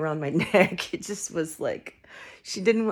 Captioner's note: laughing